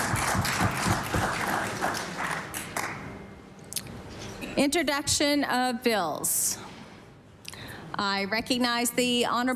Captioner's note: applause